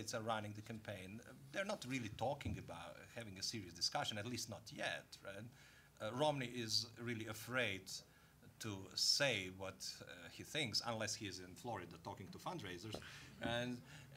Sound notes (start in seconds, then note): none